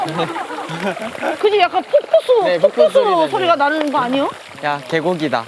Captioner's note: ~ making water sound ~